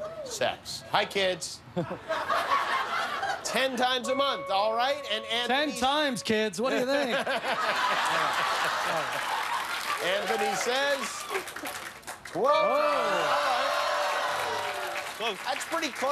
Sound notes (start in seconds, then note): 3.2 laughter; 9.4 laughter